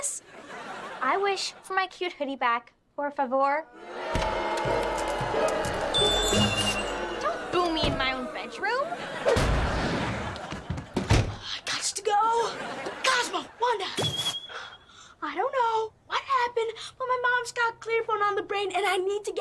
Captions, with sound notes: I wish for my cute hoodie back, por favor. [booing] Don't boo me in my own bedroom, I got to go. Cosmo, Wanda. I don't know what happened but my mom's got clear phone on the brain, and I need to get Viv and me